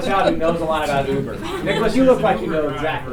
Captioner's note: laughter